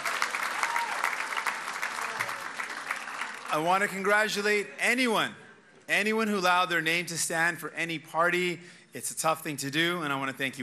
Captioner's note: cheers and applause